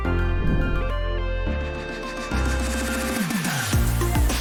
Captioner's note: image whooshes